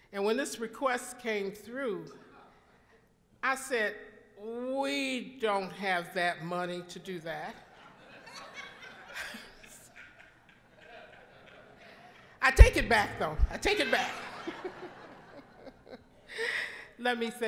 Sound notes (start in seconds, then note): 7.6 all laughing; 13.5 all laughing